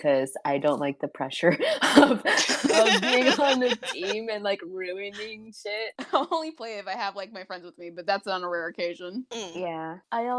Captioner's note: giggling